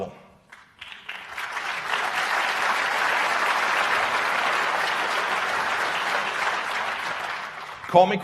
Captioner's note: applause